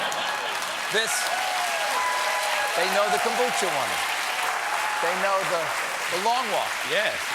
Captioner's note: cheers and applause